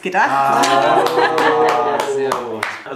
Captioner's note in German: Raunen und Lachen